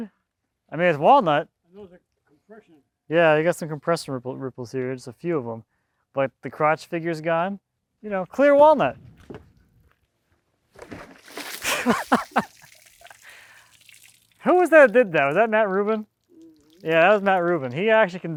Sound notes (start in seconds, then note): 10.8 water splashes; 11.6 laughing